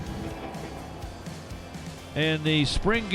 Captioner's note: crowd murmuring